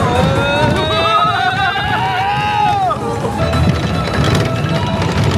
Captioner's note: yelling; ride clattering